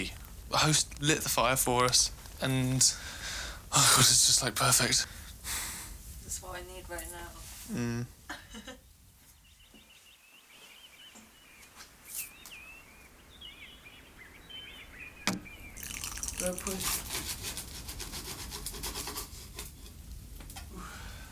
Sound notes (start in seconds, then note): 8.2 laughter; 10.0 birds, wind noise